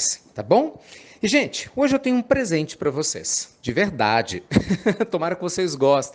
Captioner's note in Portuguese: risadas